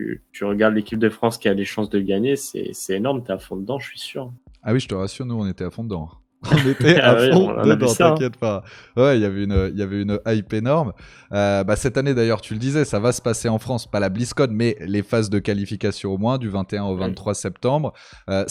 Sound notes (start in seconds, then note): 6.5 laughs